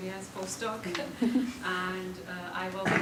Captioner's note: chuckling